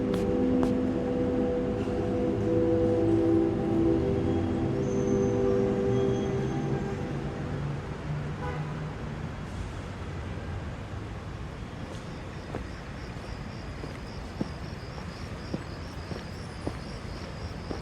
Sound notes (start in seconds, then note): 8.2 horn honks; 11.5 crickets chirping; 12.7 footsteps clacking